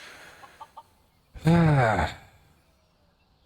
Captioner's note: sigh